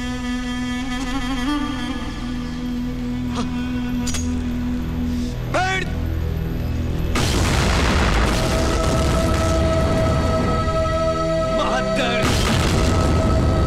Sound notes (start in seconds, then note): 7.1 Explosion